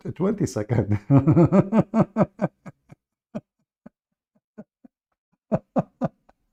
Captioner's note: Ketawa